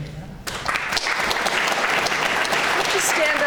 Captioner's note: clapping